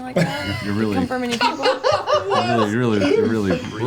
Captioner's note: all laugh